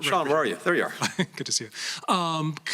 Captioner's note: laughter